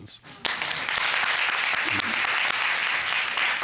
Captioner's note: audience applauding